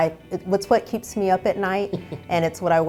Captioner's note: chuckles